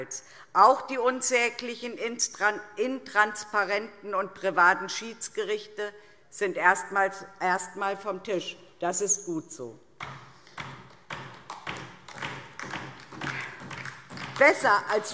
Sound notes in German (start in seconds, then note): 9.5 Beifall DIE LINKE